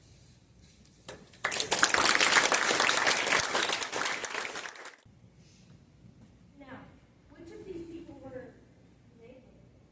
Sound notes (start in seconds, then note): 1.3 applause